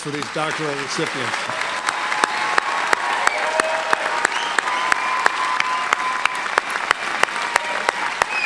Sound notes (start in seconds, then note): 1.5 applause